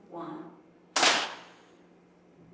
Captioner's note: camera flashes